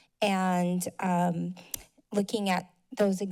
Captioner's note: mouth click